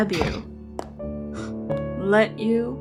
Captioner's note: MEGATRON scoffs